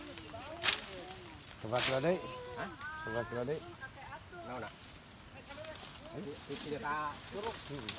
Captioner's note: speaking traditional language